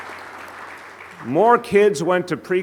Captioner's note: applause